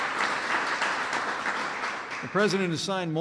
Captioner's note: applause